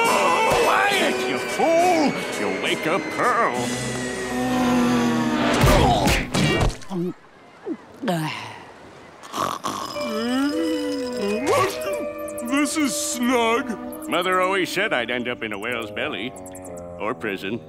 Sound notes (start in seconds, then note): 4.2 screaming quietly; 9.1 snoring; 9.2 gulping